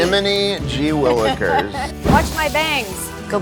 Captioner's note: laughs